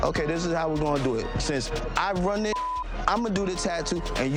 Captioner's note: beeps